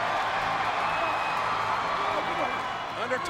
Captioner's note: crowd cheering